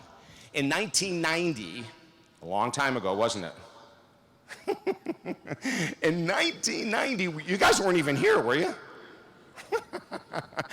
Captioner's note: laughs